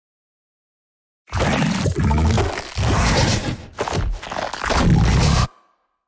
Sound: sloshing

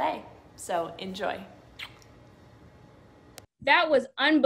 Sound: kiss smacking

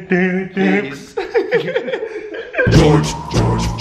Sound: laughing

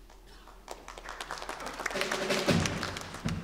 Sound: applause

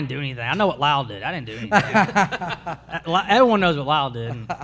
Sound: panelists laugh

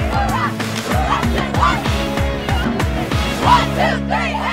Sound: girls chanting

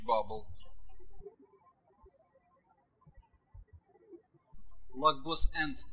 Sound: birds chirping

